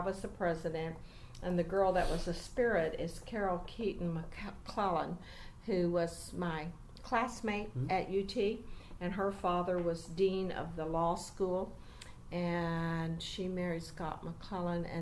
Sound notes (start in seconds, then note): none